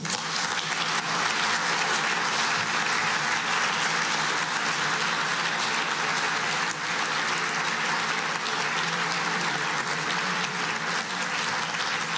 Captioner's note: applause